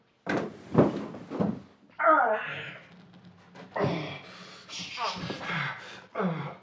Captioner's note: Solent exhales; Solent grunting and panting